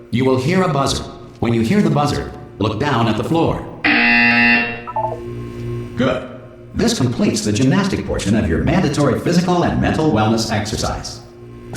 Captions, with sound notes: You will hear a buzzer, when you hear the buzzer, look down at the floor. *buzzer* Good. This completes the gymnastic portion of your mandatory physical and mental wellness exercise.